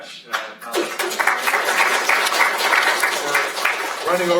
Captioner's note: applause